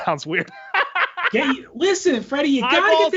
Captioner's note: laughs